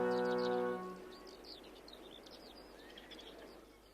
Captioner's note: birds chirping